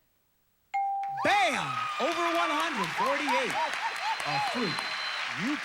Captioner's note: audience applauding